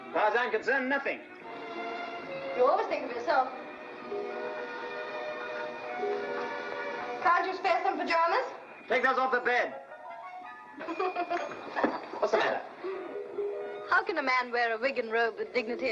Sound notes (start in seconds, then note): 10.8 laughing to herself